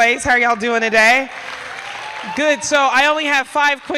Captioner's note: applause